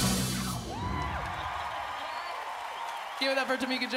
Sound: crowd cheering

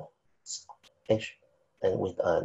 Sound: speaking faintly

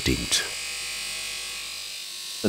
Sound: loud whirring

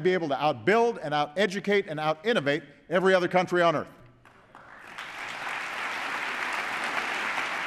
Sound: applause

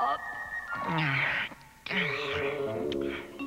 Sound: mumbles

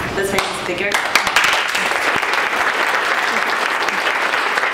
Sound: applause

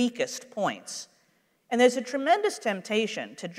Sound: none

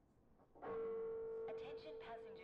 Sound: train announcement chimes

